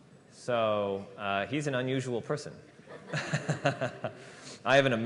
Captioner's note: laughter